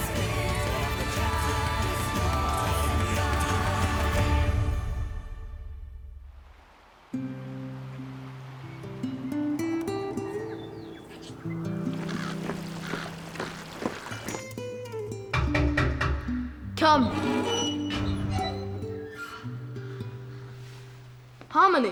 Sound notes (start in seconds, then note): 6.9 somber guitar music; 6.9 water splashing; 15.4 door pounding; 16.8 door squeaking